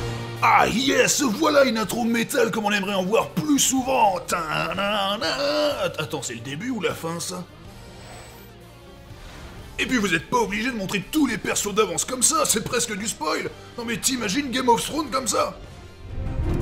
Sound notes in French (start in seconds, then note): 4.0 Fredonne l'air